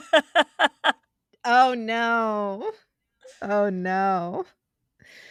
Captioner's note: laughing